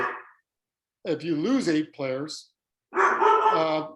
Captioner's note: dog barking